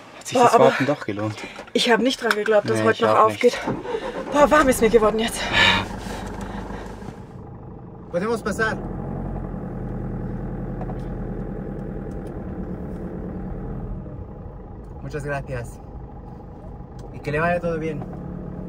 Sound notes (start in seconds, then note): 14.5 in Spanish